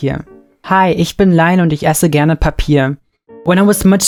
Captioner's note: speaking German